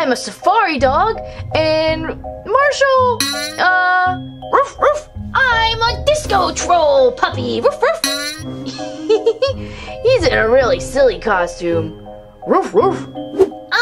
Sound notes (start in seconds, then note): 4.5 dog barks; 7.5 dog barks